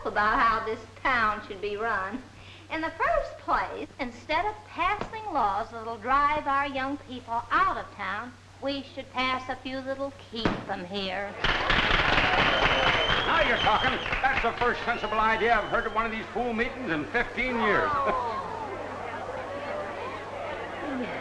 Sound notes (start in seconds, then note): 11.4 group clapping; 11.5 group whistling; 18.1 group chattering